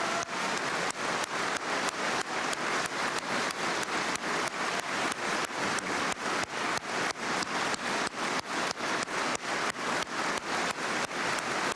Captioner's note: cheers and applause